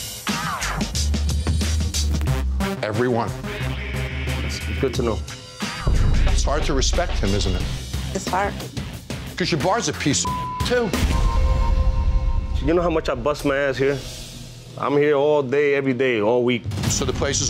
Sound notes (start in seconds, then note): 0.1 intense music; 10.2 beep